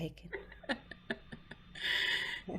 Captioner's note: laughing